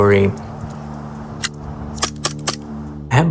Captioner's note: gun clicking